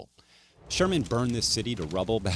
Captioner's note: fire crackling